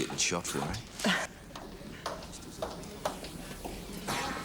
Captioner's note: laughing